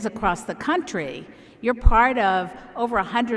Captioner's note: none